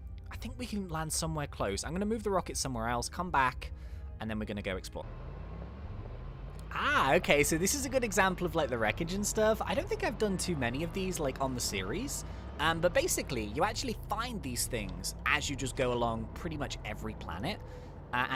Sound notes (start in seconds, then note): 5.6 car engine roaring